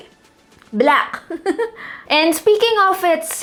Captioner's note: giggles